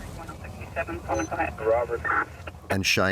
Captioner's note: radio calling